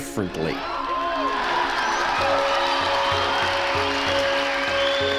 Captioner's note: crowd cheering